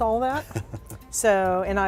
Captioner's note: laughter